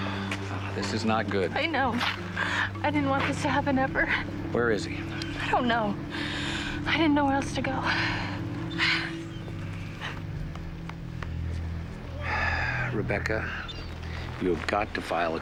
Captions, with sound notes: - (sighing) This is not good. - I know. I didn't want this to happen, ever. - Where is he? - I don't know. I didn't know where else to go. - Sorry. (sighing) Rebecca...